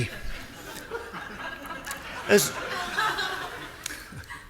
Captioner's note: audience laughing